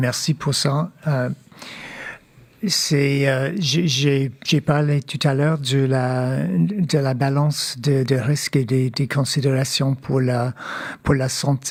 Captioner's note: speaking French